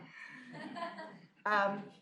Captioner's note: laughter